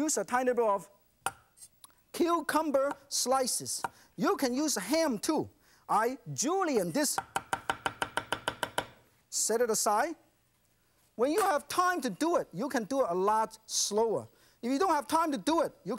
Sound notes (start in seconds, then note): none